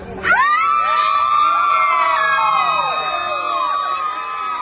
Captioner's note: crowd screams